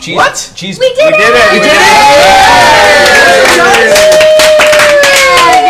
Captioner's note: all cheer